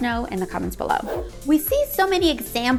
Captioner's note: air whooshing